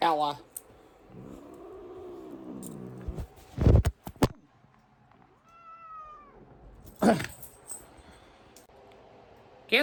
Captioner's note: Caprice growls, then meows in anger